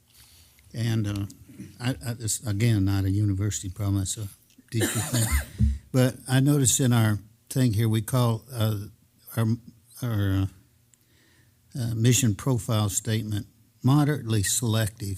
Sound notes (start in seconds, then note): 4.8 cough